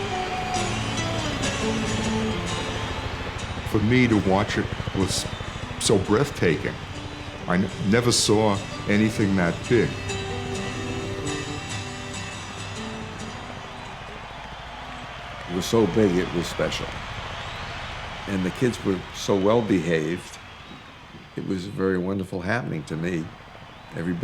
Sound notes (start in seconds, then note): 0.0 gentle rock music; 10.4 light rock music; 13.0 crowd cheering